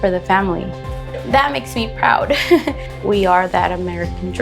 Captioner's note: chuckles